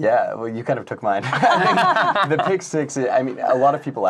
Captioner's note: laughing